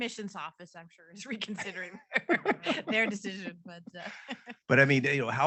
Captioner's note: both laughing